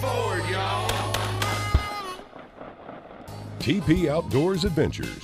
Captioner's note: shotgun firing